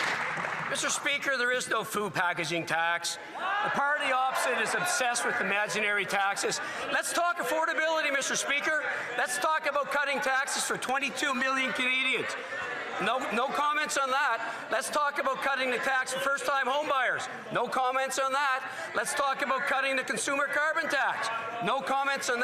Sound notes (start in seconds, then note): 0.0 some Applause